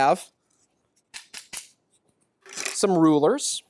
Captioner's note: slapping sound